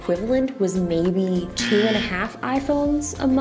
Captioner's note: buzzer blaring